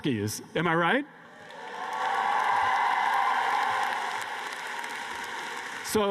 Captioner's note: cheers and applause